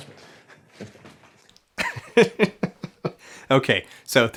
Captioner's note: laughs